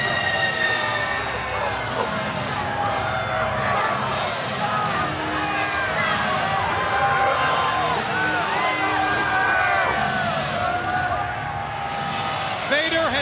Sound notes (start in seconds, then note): 3.0 crowd cheering